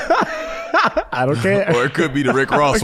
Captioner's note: laughs